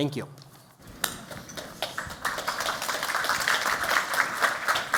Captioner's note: applause